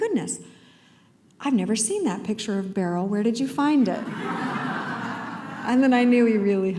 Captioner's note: laughter